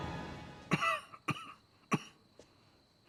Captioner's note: cough cough cough